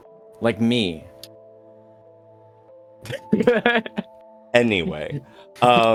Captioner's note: laughter